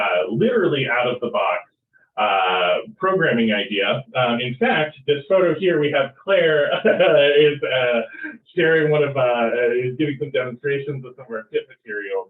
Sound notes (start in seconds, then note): 6.4 chuckles